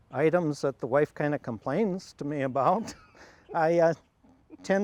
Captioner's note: laughs